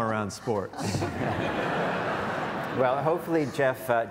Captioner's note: audience laughs